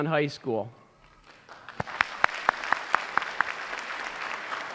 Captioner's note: applause